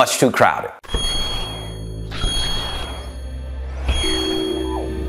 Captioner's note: logo whooshing